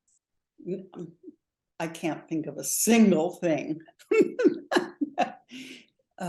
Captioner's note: laughs